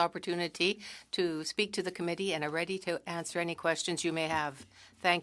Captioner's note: speaking French